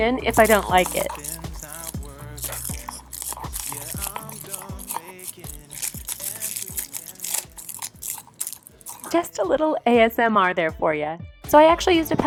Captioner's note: crinkling plastic sound